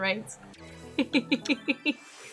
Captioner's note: laughs